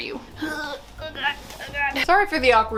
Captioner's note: groans